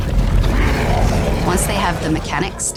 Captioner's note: grunting